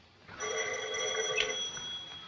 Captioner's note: phone rings